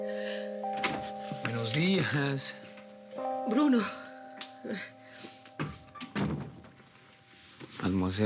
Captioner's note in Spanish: Sollozos